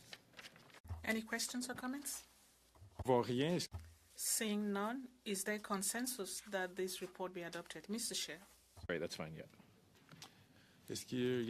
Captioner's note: speaking French